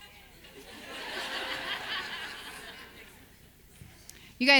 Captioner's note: audience laughs